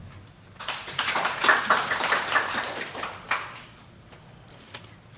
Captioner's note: audience applauding